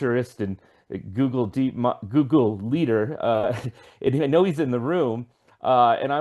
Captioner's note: laughs